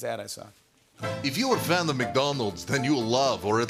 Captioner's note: Russian accent